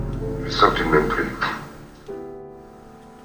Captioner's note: voiceover of man speaking in french